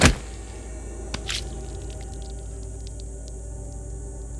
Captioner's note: thudding; guts squishing